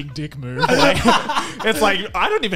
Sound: laughing

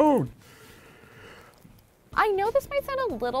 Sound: yawns

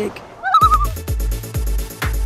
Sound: loon call

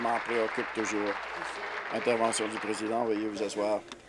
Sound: applause

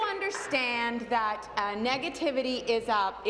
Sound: applause

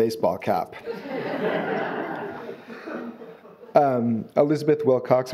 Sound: audience laughing

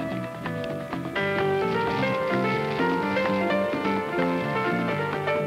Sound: can clunks; plastic unwrapping

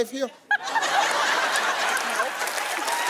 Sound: audience laughing

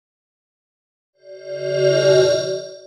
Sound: swoosh

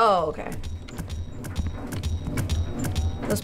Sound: washing machine rumbling, rattling

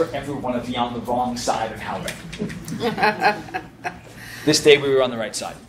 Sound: laughs

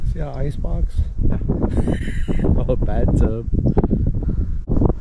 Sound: laughing

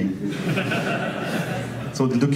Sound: audience laughs

